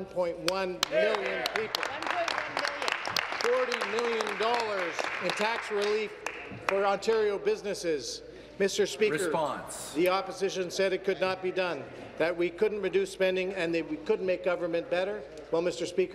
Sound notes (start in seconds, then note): 7.1 applause